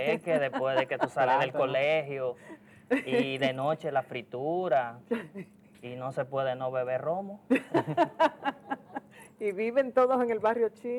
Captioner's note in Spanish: risas